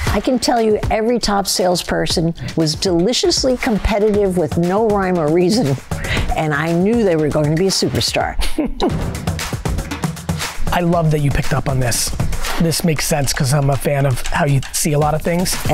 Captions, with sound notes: I can tell you every top salesperson was deliciously competitive with no rhyme or reason, and I knew they were going to be a superstar. (Gary chuckles) (upbeat music) - I love that you picked up on this. This makes sense 'cause I'm a fan of how you see a lotta things.